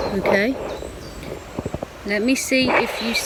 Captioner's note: birds chirping